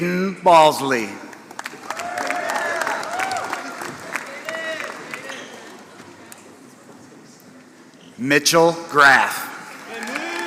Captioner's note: applause; applause